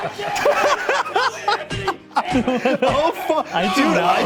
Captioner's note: laughing